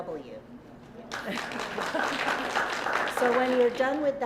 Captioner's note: applause